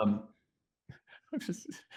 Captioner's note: laughs